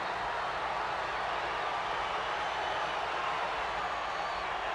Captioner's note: crowd cheers